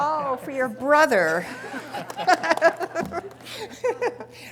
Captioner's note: laughing